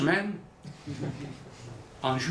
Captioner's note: laughter